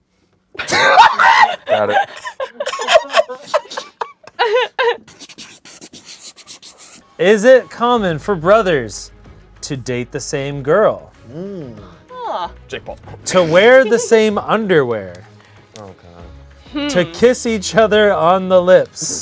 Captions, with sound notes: (everyone laughs) Is it common for brothers to date the same girl? - Jake Paul. - To wear the same underwear. To kiss each other on the lips.